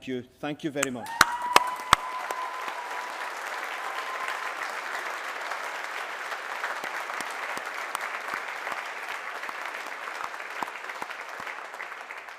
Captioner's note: applause